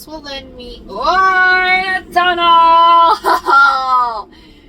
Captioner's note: laughs